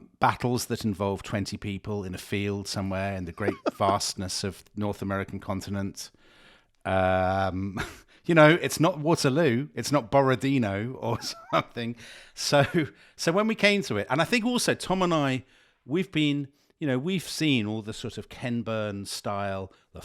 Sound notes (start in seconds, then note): 3.3 laughing; 7.9 chuckles